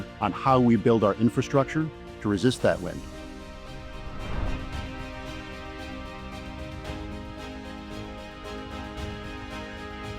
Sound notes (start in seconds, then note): 3.0 transition whooshing; 4.7 gentle music continues